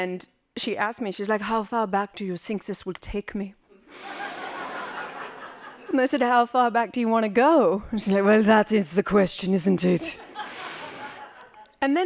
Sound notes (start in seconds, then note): 4.0 laughing; 10.1 laughing